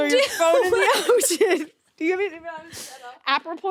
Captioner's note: both laughing